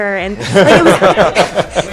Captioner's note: cast laughing